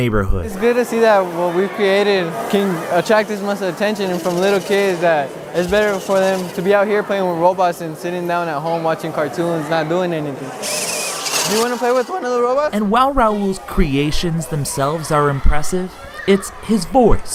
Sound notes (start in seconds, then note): 10.6 robot wheels whirl